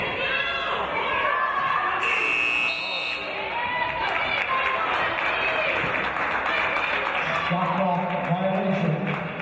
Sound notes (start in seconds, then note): 2.0 referee's whistle; 2.0 buzzer